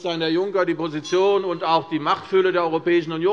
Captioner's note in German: Unruhe - Glockenzeichen der Präsidentin